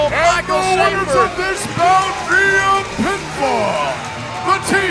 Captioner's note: announcer announcing over PA